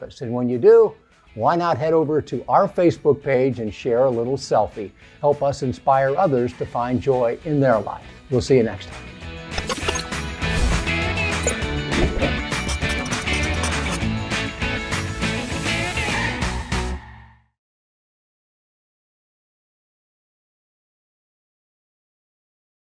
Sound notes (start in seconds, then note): 9.5 upbeat instrumental music; 9.6 graphic clicks; 10.4 graphic whooshes; 10.7 upbeat music continues; 11.9 pencil scratches; 11.9 text chimes; 11.9 upbeat music continues